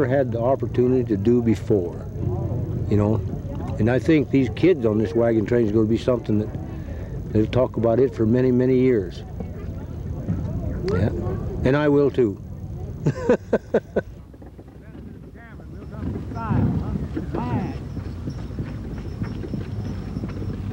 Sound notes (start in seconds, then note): 12.9 laughs